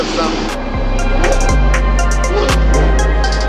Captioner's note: downshifting